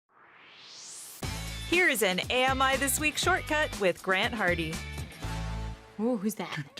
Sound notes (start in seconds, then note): 0.1 swoosh